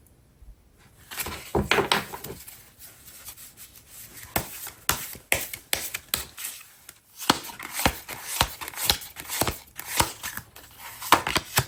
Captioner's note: drawing cards